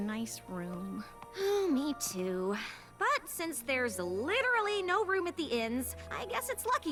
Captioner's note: sigh